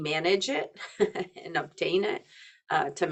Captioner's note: chuckling